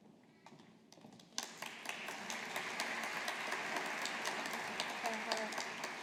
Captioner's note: audience applauding